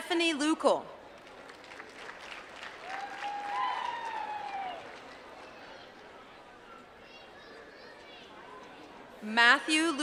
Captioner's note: applause